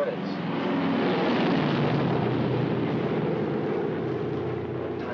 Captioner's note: aircraft roars overhead